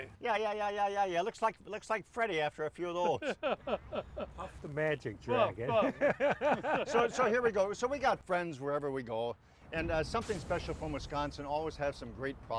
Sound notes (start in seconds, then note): 3.0 laughs; 5.7 cast laughs